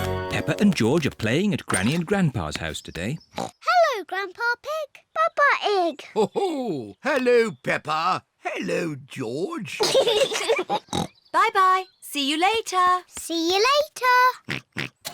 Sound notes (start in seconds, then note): 9.7 peppa and george giggle; 14.4 oinks